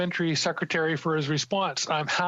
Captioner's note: speaking French